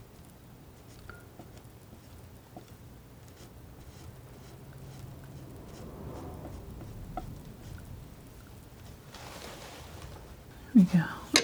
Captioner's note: tapping